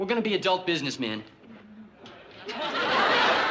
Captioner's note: laughter